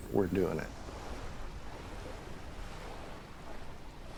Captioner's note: waves lapping